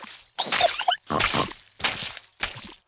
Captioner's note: giggles and snorts